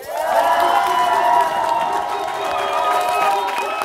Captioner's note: crowd cheering